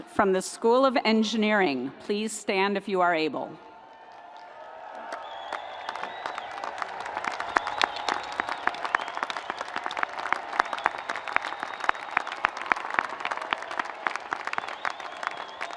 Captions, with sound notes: from the School of Engineering, please stand if you are able. (audience applauds)